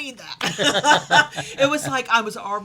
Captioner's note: laughs